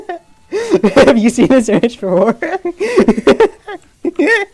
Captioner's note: laughing